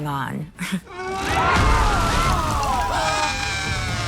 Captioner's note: family screaming